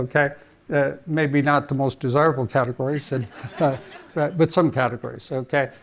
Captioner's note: audience laughing